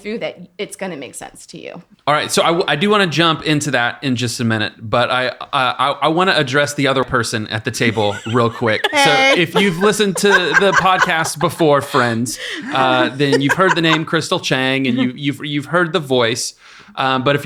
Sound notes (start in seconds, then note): 7.8 laughing